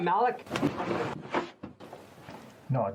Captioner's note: hand smacking arm